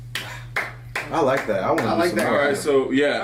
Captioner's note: applause